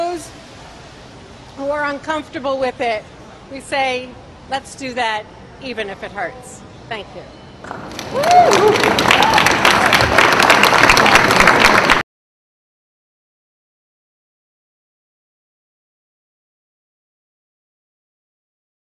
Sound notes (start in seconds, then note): 7.7 crowd applause